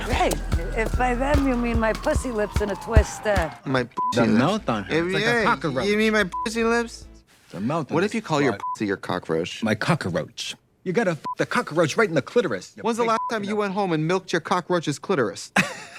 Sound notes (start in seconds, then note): 3.9 beep; 6.2 beep; 8.6 beep; 11.2 beep; 15.7 Katya laughing